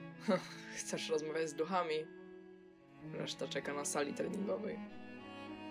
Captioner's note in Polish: lekki śmiech